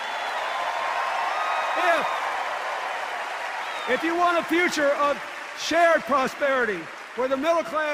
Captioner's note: cheers and applause